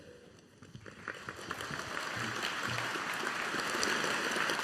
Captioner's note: audience applauding